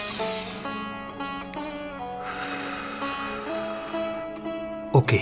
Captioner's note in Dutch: Breathes in; Breathes out